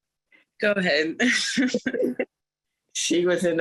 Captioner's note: laughter